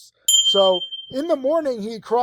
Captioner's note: notification bell ringing